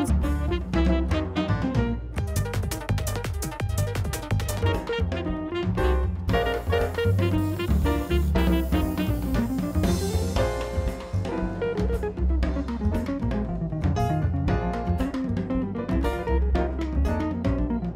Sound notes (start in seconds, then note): 0.3 upbeat music; 5.5 smooth music; 9.6 spray can hisses; 11.3 smooth music